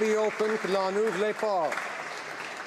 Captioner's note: applause